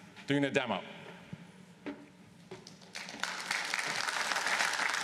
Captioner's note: applause